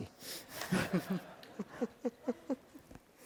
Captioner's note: laughter